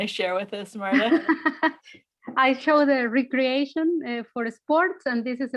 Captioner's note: chuckles